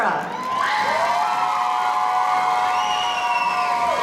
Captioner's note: audience cheering